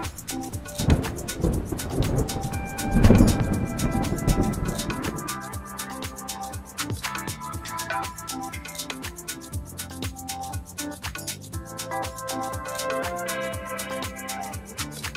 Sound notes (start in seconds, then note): 0.6 thunder rumbling; 5.1 upbeat music